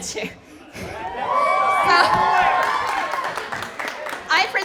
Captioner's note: cheering